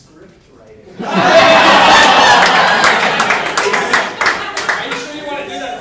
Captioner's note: audience laughing